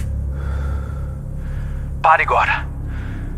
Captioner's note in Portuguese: ofegante